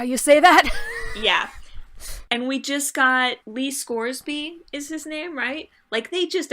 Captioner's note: laughs